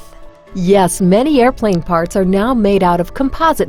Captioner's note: voiceover